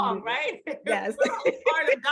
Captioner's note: laughs